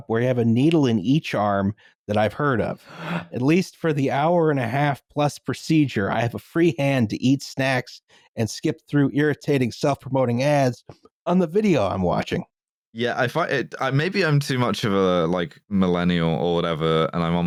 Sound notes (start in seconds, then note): 2.8 someone gasps loudly